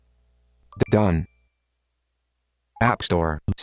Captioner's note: chime